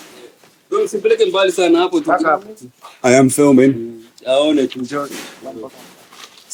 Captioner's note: speaks Swahili; speaking Swahili